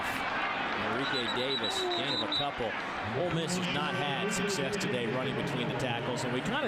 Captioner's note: crowd noise